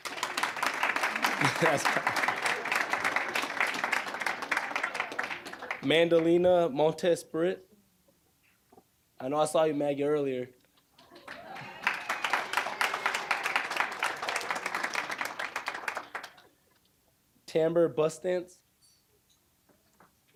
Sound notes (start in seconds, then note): 0.0 applause; 0.9 audience laughing; 11.0 applause